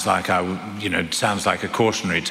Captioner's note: foreign accent